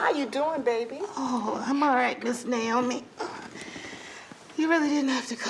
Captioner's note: groans